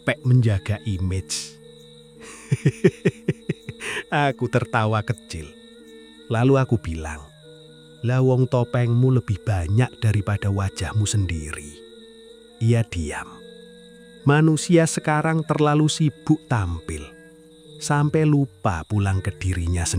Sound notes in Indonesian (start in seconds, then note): 2.2 tertawa